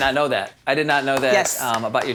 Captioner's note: claps